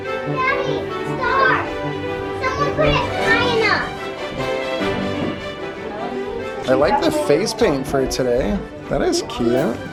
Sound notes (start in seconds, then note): 4.0 joyful music continues; 6.0 family chattering